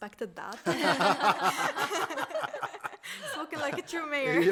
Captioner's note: laughing